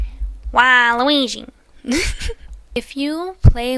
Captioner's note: laugh